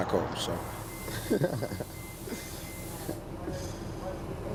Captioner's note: laughing